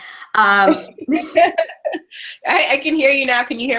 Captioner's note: laughing